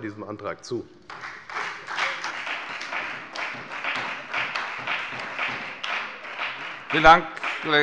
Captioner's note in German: Beifall bei der FDP und bei Abgeordneten der SPD